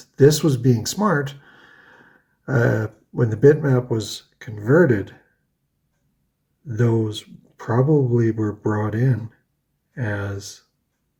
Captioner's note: inhales